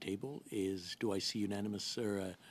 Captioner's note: speaking French